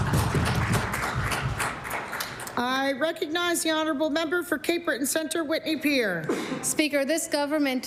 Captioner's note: applause